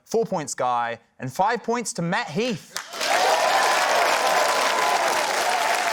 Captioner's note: cheering, applause